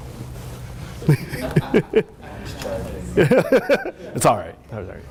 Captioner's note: laughter